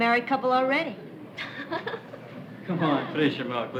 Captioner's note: laughter